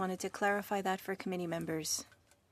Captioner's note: speaking French